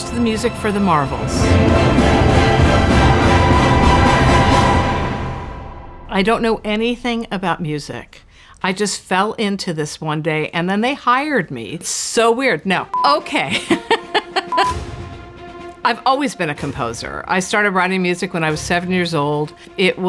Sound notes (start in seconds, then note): 1.9 dramatic music; 13.3 laughing